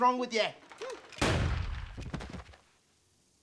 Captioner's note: gunshot; thud